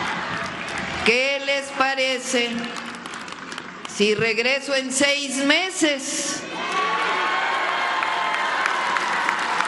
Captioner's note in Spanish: aplausos